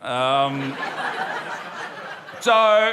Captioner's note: laughter